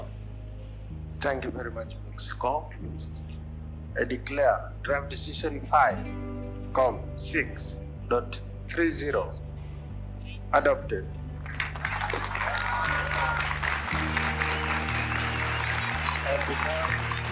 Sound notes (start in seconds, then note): 11.4 cheers and applause; 14.4 shouting; 14.4 whistles